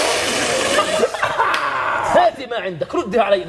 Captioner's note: crew laughs